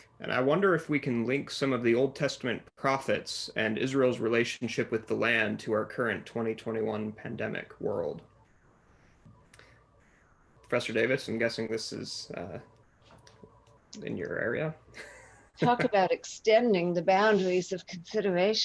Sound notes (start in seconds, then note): 15.0 laughs